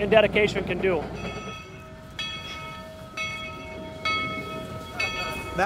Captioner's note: bell ringing